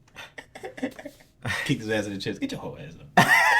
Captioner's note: laughs